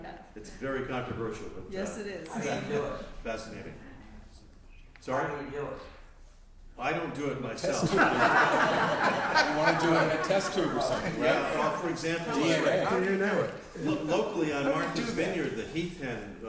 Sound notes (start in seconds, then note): 7.6 laughter